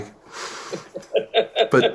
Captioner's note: laughter